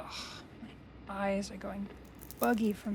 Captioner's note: switches flipping